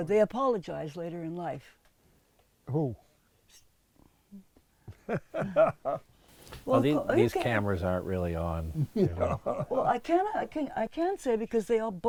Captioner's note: laughs